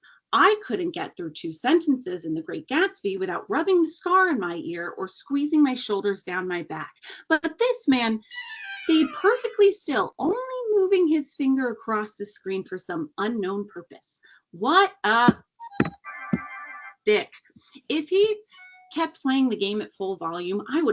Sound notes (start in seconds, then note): 15.6 cellphone chimes